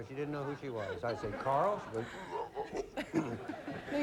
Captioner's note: stammering